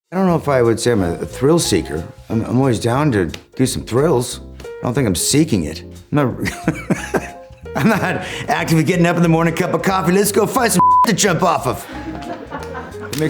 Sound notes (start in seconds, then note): 6.4 laughs; 12.2 crew laughing